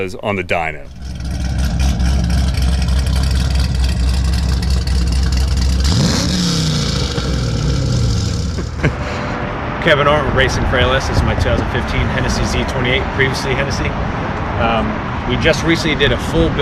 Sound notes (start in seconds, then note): 1.5 loud Exhaust, Big Cam, Headers; 6.0 engine Rev